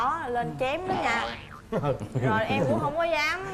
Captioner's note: laughing